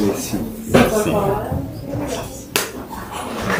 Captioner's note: speaking spanish